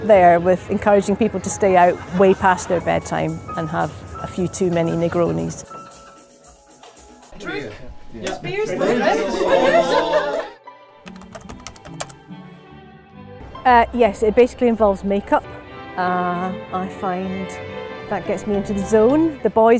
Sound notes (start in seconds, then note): 8.7 cheering & laughter